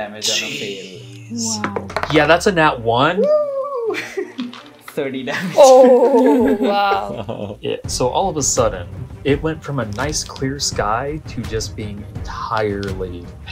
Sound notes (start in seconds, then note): 0.3 all gasping; 3.3 laughs; 6.9 laughter